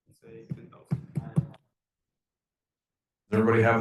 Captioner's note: students speaking faintly in background